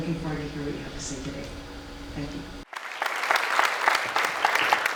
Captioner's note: audience applause